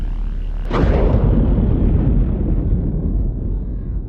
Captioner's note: thunder rumbling